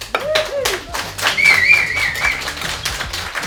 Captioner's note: crowd cheering